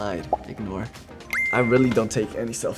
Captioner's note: beeps